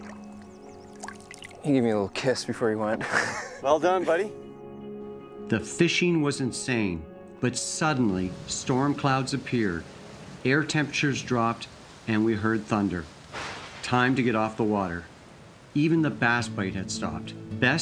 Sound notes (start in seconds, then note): 2.9 chuckling